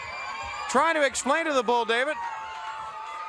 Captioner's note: crowd cheering